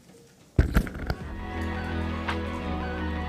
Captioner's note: sounding gavel